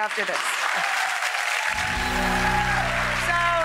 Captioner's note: audience cheering